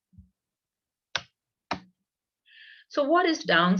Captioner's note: keyboard sound